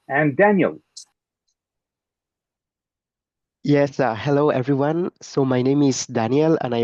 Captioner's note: French accent